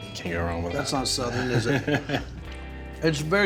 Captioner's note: laughing